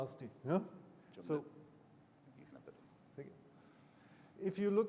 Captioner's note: faintly chatters